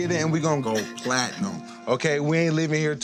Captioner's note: laughs